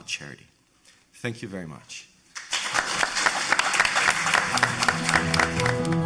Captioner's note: audience applauding; slow music